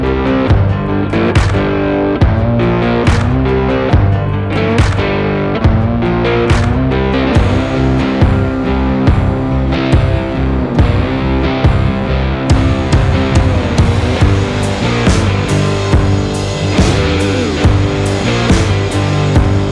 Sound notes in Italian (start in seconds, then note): 0.7 Applauso